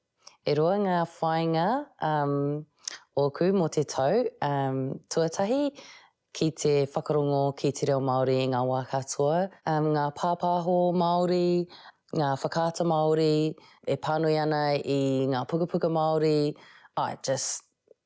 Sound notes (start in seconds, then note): none